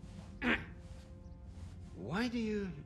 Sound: clears throat

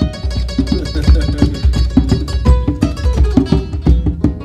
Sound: laughing

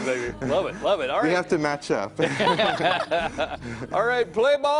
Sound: laughter

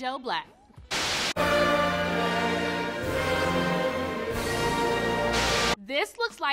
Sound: TV static hisses

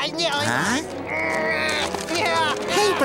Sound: DoodleBob grunting

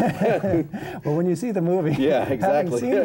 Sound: laughter

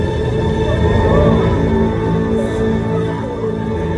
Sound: people screaming

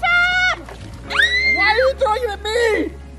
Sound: screams

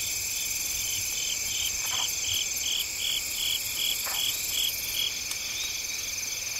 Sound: frog croaking

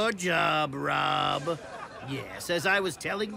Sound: laughter

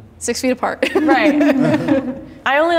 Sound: laughing

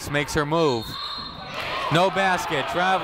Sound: whistle tweeting

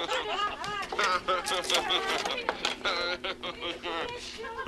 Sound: laughing sarcastically

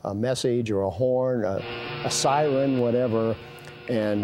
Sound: horn sounding in background

